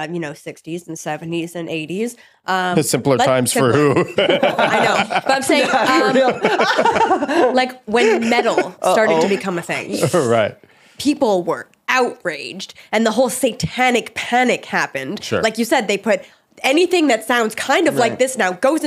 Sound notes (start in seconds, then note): 6.6 laughing